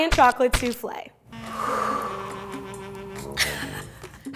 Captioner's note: breathing; laugh